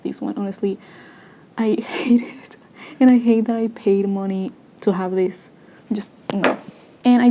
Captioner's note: laughing